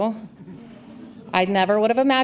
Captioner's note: audience laughs